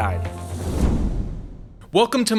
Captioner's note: air whooshing